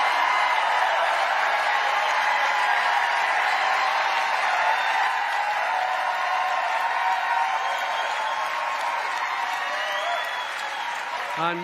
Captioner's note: cheering